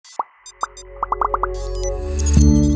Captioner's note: graphics beeping; graphics popping; bright music; logo chiming